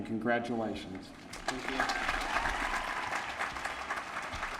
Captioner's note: applause